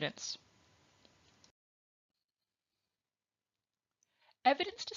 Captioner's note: silence